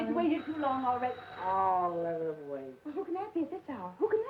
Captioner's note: doorbell ringing